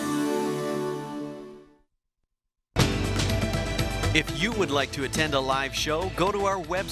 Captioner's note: voiceover